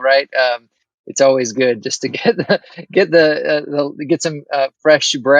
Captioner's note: chuckles